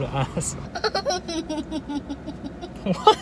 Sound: laughing

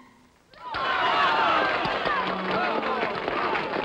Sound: applause

